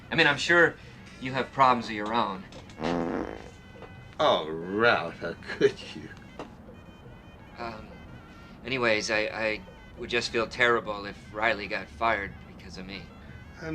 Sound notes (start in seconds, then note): 2.7 farts